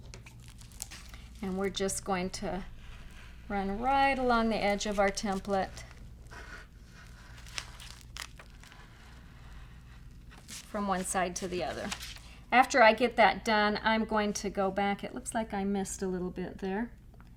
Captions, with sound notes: And we're just going to run right along the edge of our template. (paper shuffling) From one side to the other. After I get that done, I'm going to go back, it looks like I missed a little bit there.